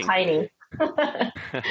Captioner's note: laughs